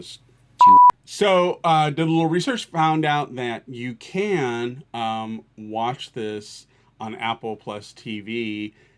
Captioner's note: blip